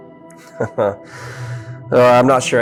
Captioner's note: chuckling